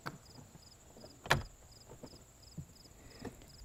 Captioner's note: door closing